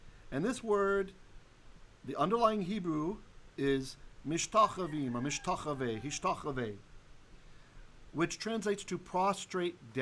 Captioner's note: Hebrew